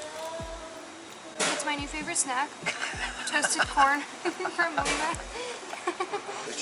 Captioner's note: giggles